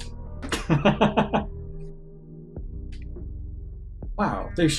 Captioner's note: laughs